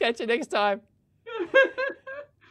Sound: giggles

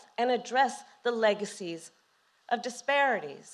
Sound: none

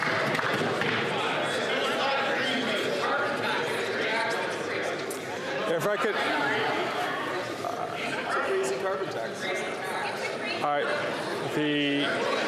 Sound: applause

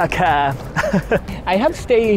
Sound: chuckles

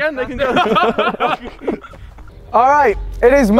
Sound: men laughing

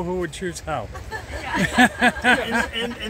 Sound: laughters

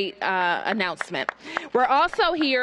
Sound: applause

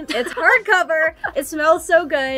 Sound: laughs

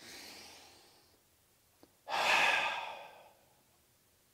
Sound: deep Breath

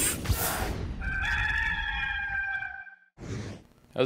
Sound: sound of rooster crowing

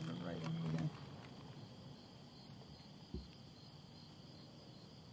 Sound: crickets chirping

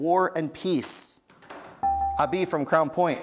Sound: buzzer beeps

